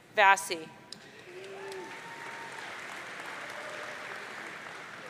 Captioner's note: audience cheering